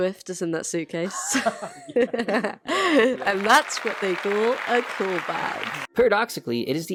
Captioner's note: laughs together